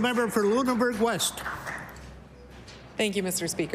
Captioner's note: applause